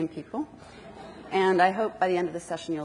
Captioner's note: audience laughs